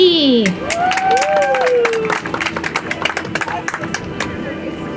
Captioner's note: audience applauds; soft music